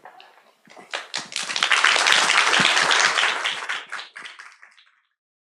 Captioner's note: applause